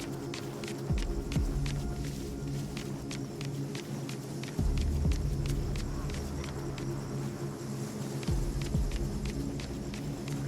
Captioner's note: crackling